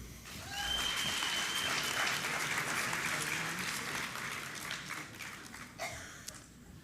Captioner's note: applause